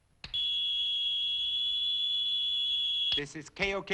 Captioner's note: radio whining